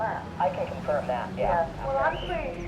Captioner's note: woman On Radio